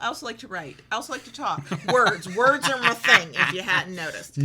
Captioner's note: laughs